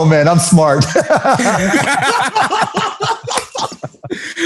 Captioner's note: laughter